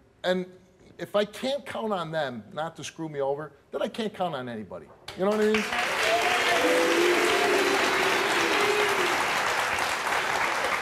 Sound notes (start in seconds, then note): 5.3 audience applauds